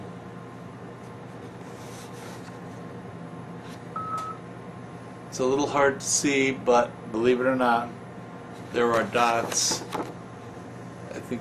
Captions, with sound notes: (machine beeps) it's a little hard to see, but believe it or not, there are dots.